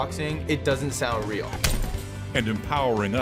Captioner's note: boxing glove smacks